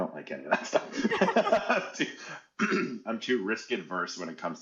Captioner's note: laughing